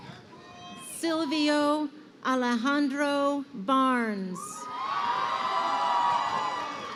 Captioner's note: crowd cheering